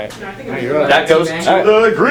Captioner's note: talking